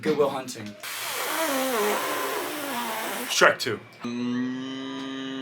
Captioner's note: blowing raspberries